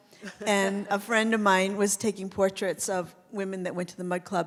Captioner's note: laughs